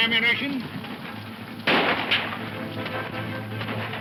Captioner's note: guns firing